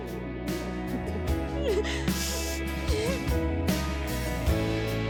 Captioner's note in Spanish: Sollozos